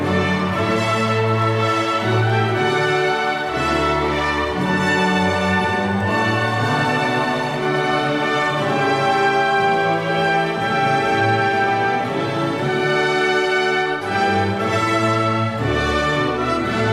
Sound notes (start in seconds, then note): 2.4 cheers and applause